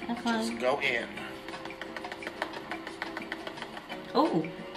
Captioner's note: pad tapping